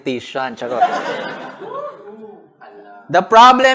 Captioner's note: laughter; whooping